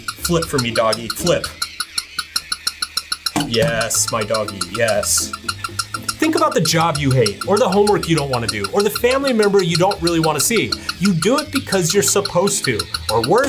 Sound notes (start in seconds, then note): 2.1 toy dog chirps